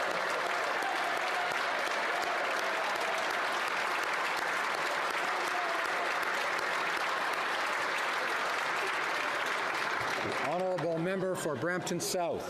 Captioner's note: applause; cheering